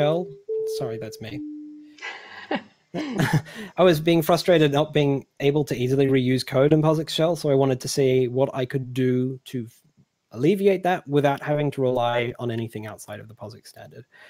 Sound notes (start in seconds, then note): 0.5 doorbell rings; 3.0 laughs